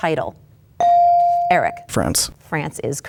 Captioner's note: bell dings